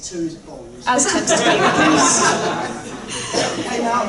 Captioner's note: laughter